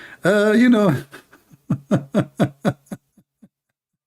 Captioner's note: Ketawa